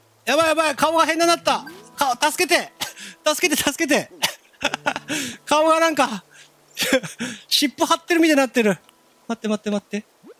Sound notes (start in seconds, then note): 6.8 giggle